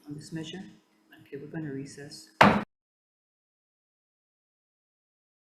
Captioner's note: mallet thudding